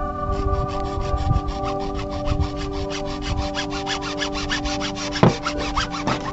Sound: ambient music; sawing; ambient music

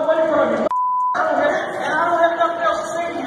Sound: beep

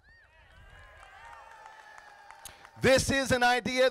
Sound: crowd applauding

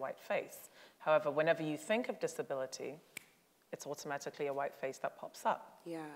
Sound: clicks

